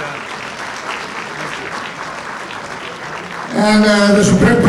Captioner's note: audience applauds